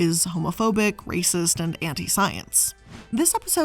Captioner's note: air whooshing